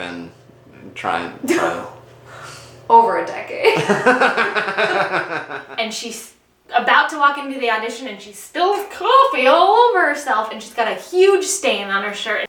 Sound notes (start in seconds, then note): 1.2 laughs; 3.6 both laugh